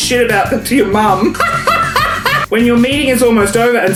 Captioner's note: laughs